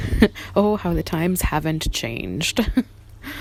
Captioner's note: laughs